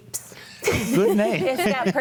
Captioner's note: group laughs